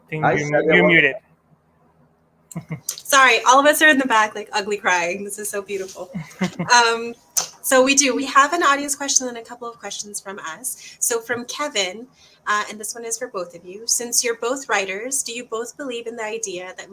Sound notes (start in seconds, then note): 6.0 soft chuckle